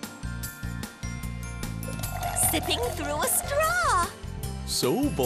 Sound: slurps

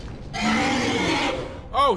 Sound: roar

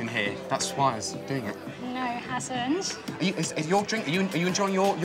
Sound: none

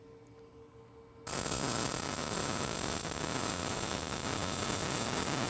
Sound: welding electrode sparking

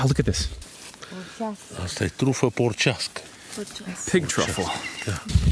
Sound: speaking Romanian

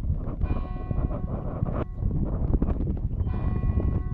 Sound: church bell tolls

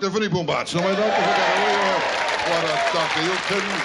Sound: audience cheering

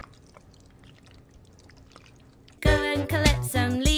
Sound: paint dripping

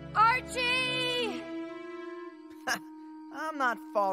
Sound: yelling

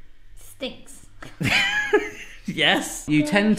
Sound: both laughing

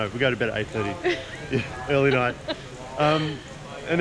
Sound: laughing

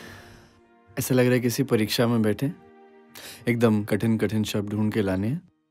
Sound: speaking in foreign language

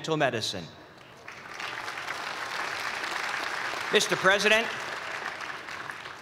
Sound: cheers and applause

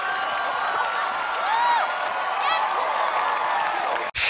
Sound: whooping

